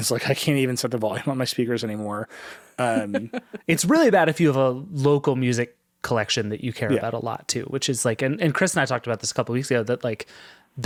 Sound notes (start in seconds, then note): 2.8 chuckling